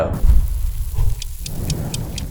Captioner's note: sand pouring; clock ticking